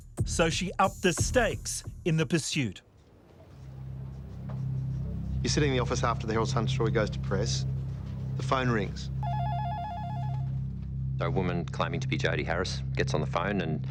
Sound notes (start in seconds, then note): 3.7 dramatic music; 9.2 phone ringing